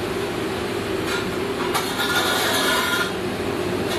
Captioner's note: clattering